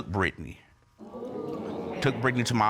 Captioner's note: audience exclaims